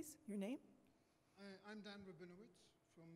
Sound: voiceover

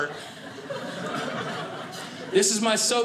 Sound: audience laughing

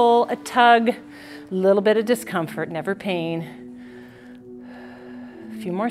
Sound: deep breathes

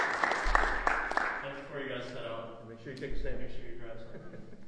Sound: laughter

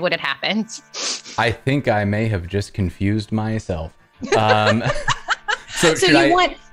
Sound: laughter

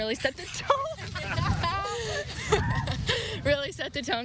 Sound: laughs

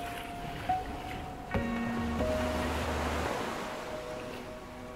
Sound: waves crashing

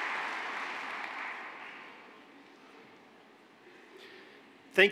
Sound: applause

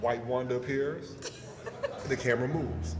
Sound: laughter

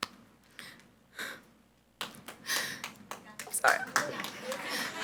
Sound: sobs; audience applauds

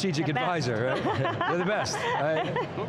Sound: laughs

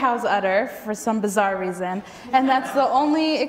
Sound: audience laughs

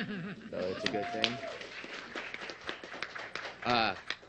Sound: applause

